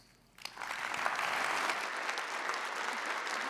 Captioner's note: applause